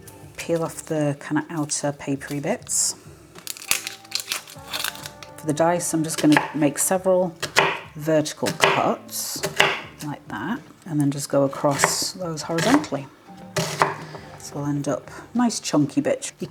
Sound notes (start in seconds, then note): 3.3 papery rustling; 7.4 chop chop chop; 13.5 chop chop chop